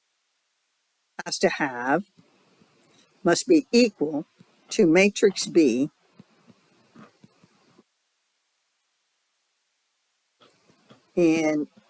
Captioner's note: 5-second silence